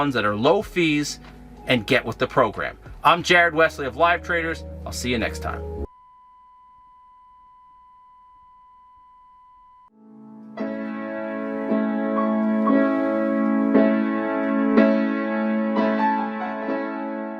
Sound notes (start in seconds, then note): 5.7 high pitched tone blares